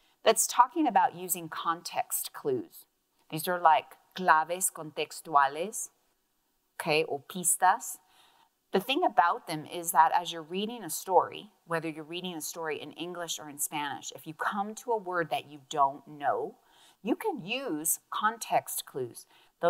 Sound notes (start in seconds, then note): 4.3 speaks in Spanish; 7.5 speaks in Spanish